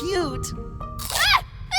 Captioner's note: chomp